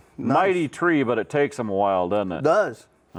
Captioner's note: none